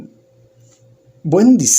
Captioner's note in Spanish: Silencio